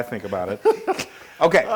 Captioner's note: laugh